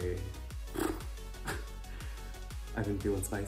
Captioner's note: lip trilling sound; scoff